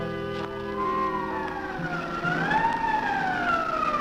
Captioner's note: sirens wailing